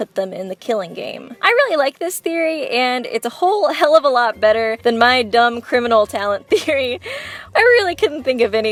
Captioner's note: laughs